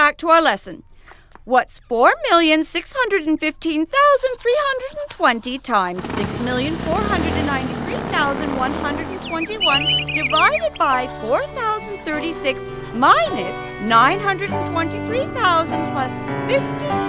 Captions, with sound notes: WHAT'S 4,615,320 TIMES 6,493,121, (BIKE RUMBLES, BIRDS CHIRP) DIVIDED BY 4,036, MINUS 923,000 PLUS 5,300?